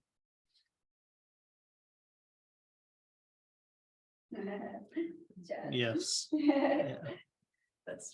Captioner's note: laughter